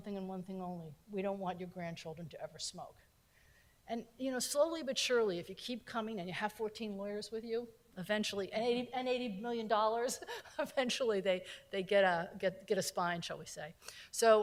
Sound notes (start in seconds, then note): 9.8 laughing